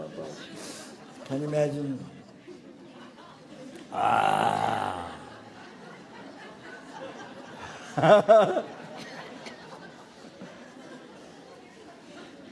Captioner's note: people laughing